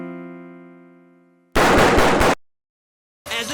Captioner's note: gunshots